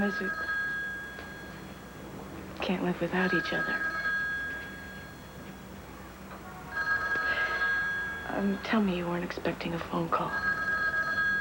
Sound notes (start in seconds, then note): 2.4 telephone rings; 6.2 rings